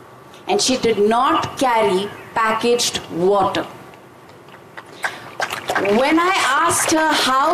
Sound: applause

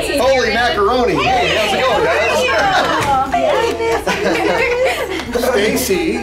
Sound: slight laughter

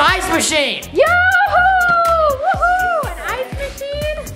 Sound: cheering

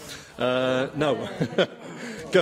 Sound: laughter

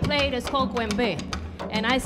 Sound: speaking in Spanish

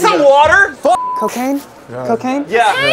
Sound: beep

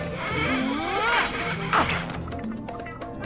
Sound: grunting

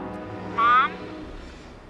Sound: on phone

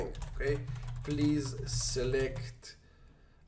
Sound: typing

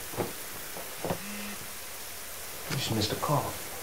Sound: phone vibrates

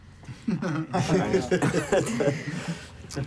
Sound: laughing

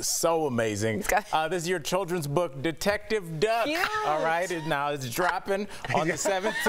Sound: laughter

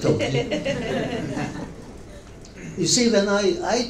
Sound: members of the audience laughing

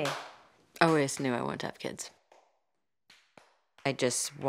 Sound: clapping; clapping

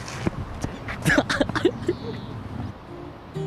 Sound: laughing

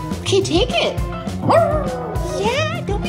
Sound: dog howling

